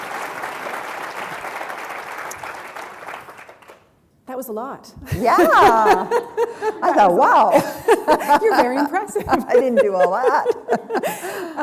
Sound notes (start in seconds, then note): 2.3 applause; 5.0 laughter; 7.7 chuckle; 10.9 chuckle